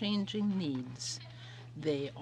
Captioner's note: speaking in french